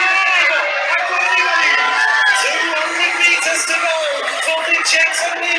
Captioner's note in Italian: Applauso